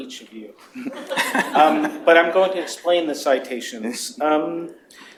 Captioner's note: laughter